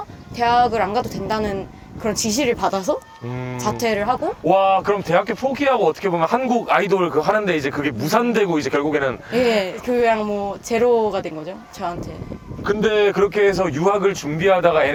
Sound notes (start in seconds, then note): 9.8 calm voice, but serious situation